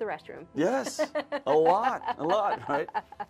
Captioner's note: host laughs